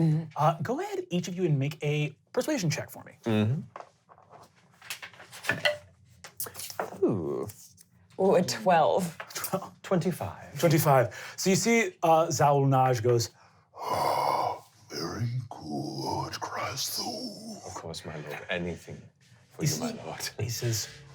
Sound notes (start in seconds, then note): 4.4 dice clanking